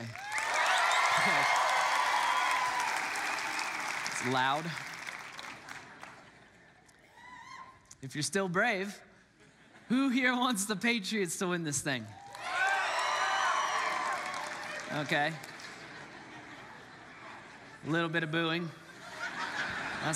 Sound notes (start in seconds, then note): 0.0 congregants cheer and applaud; 7.1 one congregant cheers; 12.1 congregants cheer and applaud; 15.4 congregants laughs; 18.8 congregants laugh